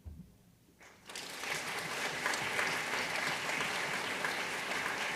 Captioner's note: audience applauding